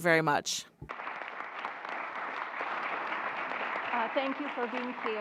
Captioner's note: applause